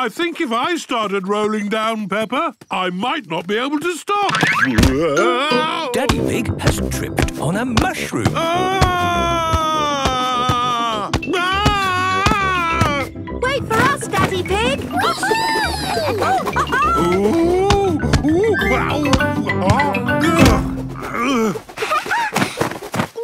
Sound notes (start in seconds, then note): 8.3 shouting; 14.8 laughing; 20.9 laughing